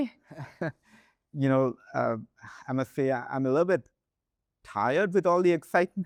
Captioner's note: chuckles